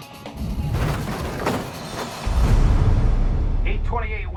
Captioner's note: music set crashing in the wind